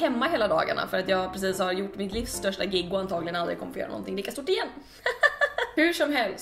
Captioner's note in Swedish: nervöst skratt